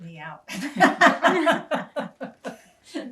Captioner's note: laughing